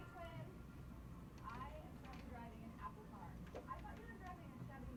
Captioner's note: woman speaking on video